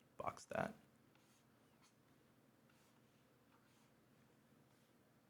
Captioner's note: pen scratches